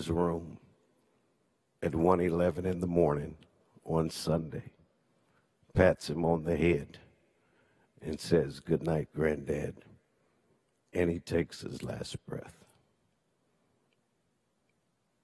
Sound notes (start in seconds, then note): none